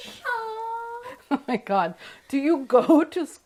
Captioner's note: laughs